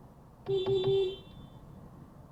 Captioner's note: beepbeepbeep